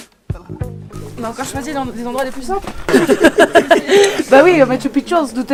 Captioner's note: laughter